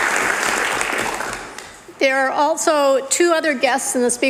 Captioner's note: cheering/Applause